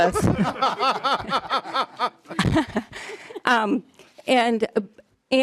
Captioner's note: laughing